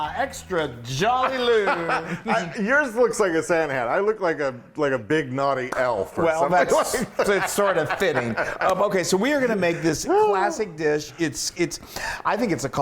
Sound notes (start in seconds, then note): 0.9 laugh; 6.4 laugh